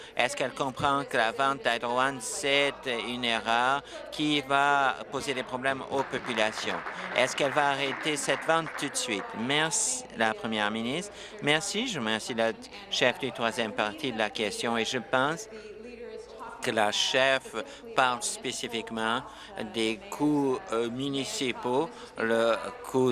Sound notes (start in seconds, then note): 9.7 applause